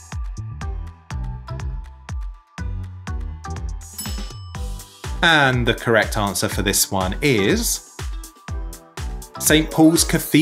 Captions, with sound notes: (bell clinking) And the correct answer for this one is St Paul's Cathedral,